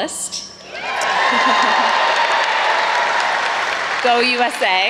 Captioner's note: audience cheers